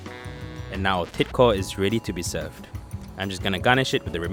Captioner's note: voiceover